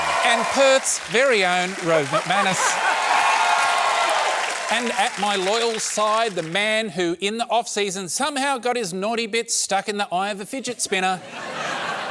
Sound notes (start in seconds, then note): 2.8 cheering, applause